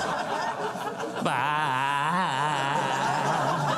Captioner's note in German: Nachahmend